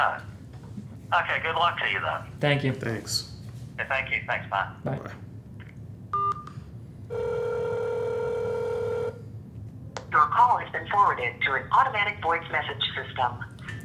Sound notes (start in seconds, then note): 7.1 phone ringing; 10.0 automated voice